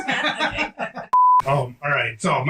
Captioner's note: both laugh; beep